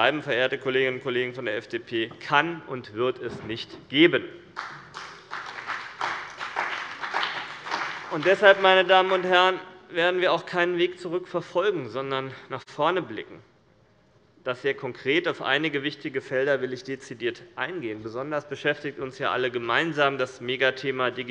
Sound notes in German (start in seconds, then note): 4.5 Beifall bei dem BÜNDNIS 90/DIE GRÜNEN und der CDU